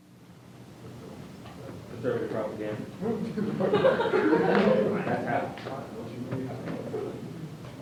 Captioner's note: laughter